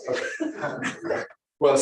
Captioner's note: laughs